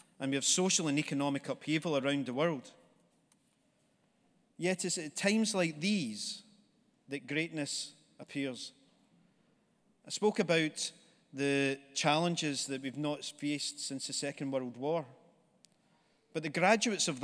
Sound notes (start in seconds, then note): none